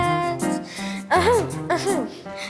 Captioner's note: cough